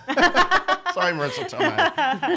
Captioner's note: laughing